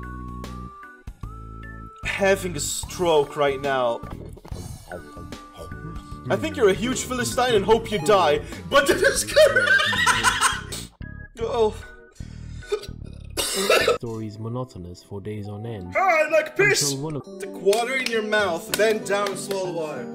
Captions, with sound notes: having a stroke right now. I think you're a huge Philistine and hope you die, but- [Laughter] Oh. [Coughing] "The story's monotonous for days on end." Ah, like piss! "To water in your mouth, bend down slow water."